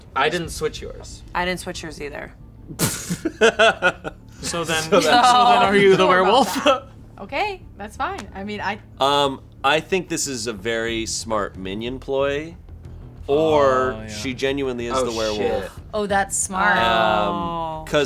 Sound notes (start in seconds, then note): 2.7 laughing